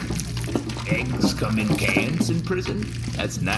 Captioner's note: sloshing diesel around